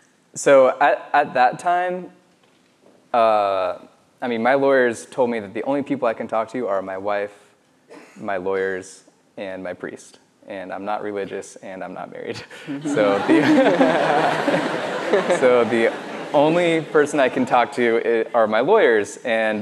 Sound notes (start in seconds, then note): 12.5 laughs